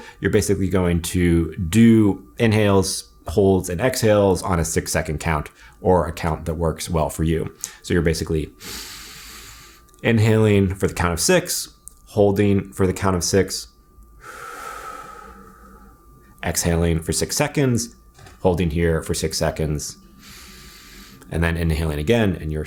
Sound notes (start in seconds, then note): 8.6 breathes deeply in; 14.2 exhales out slowly; 20.1 breathes deeply in